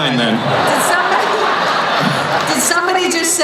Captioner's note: laughing